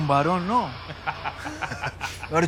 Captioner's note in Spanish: Risas